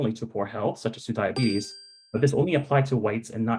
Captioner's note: bell chiming